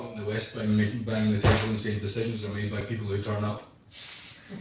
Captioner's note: audio distorts; audio distorts; laughter